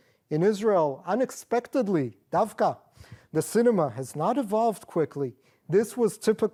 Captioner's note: non-english